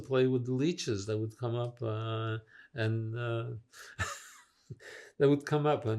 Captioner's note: laughing